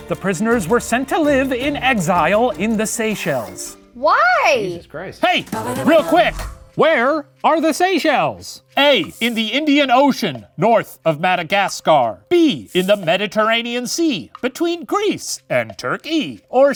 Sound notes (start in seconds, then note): none